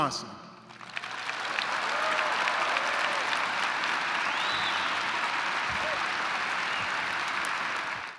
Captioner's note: applause